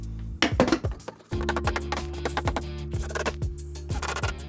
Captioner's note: banging; drill whirring